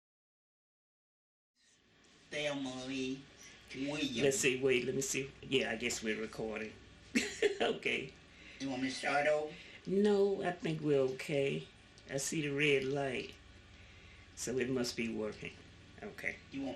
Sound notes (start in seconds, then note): 7.1 laughs